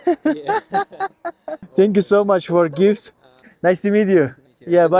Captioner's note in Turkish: kahkaha